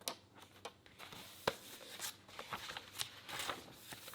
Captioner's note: pages rustle